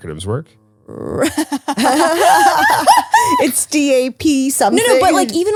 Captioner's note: laugh